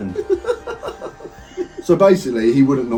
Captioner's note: laughing